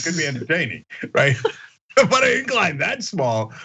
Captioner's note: laugh